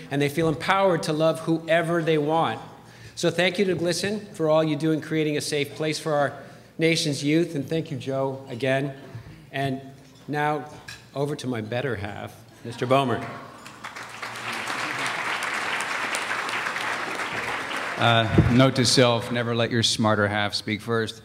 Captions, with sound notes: and they feel empowered to love whoever they want. So thank you to GLSEN for all you do in creating a safe place for our nation's youth. And thank you Joe, again. Now, over to my better half, Mr. Bomer. [Applause] Uh, note to self: never let your smarter half speak first.